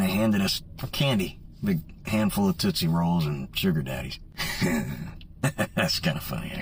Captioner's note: laughs